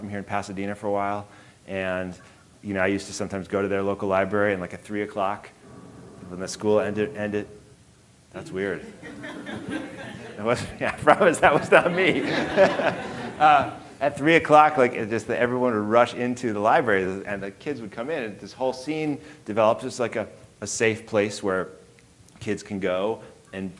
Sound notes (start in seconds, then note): 8.4 audience laughing; 13.2 laughing